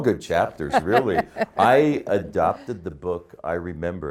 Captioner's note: laughing